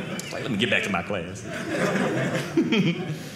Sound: audience laughing

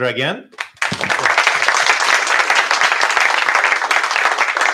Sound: applause

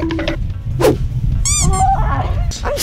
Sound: timer counting down; squeak

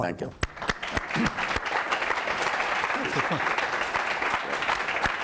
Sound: audience applauding

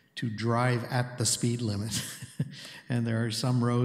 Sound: chuckles

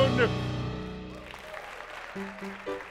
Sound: applause

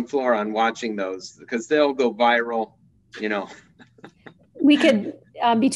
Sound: chuckling

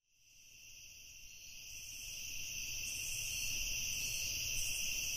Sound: bugs chirping

